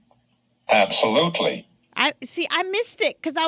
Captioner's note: voiceover